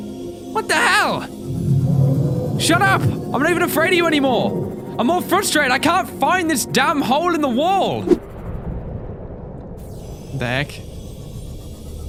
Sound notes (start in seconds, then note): none